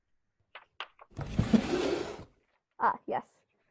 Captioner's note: drawer opens